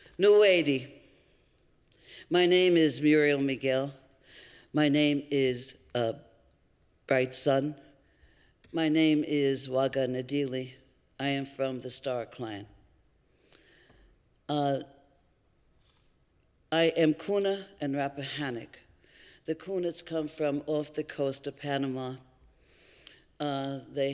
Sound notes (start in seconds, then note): 9.8 non-english